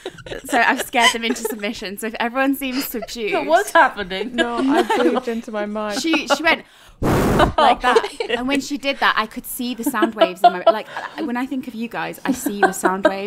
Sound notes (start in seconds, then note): 7.0 microphone muffle